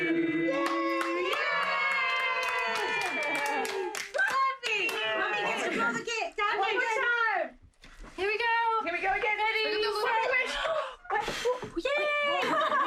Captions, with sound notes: (cheering) - Mommy gets to blow the cake. Dad. One more time! - Here we go!... Here we go again... Ready, set... Make a wish! Yay! (laughter)